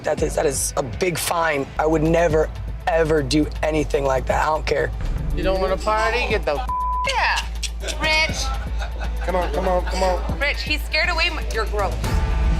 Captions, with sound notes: That is a big fine. I would never, ever do anything like that, I don't care. - You don't wanna party, get the (beep) out. - Rich-- - Come on, come on, come on. - Rich he scared away-- you're gross.